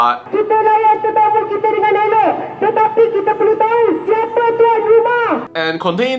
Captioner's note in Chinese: 马来语